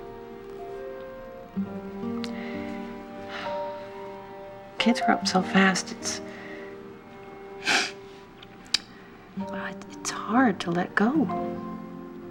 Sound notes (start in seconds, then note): 2.3 sighs; 7.6 sniffles